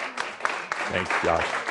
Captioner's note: audience applause